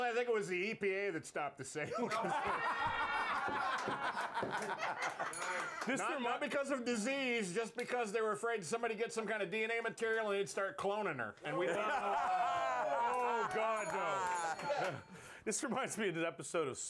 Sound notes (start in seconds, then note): 1.8 laughter; 5.2 bell rings